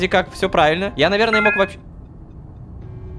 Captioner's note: notification